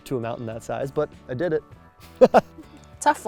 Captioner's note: laughs